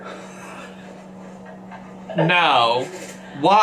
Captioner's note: laughs